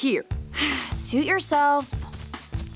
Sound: sighing; upbeat music

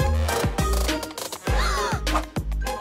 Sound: gasps

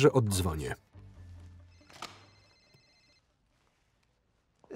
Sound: phone ringing

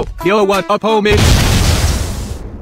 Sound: boom

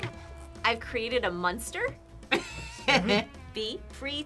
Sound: laughs

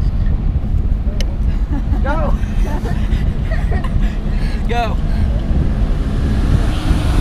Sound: laughing

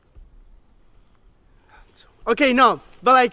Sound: whispers something

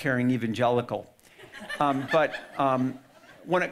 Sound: audience laughing

